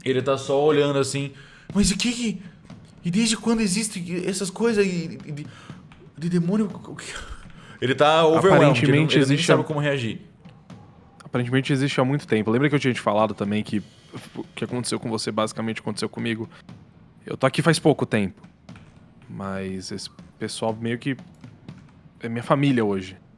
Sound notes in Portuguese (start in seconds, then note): 5.4 suspiro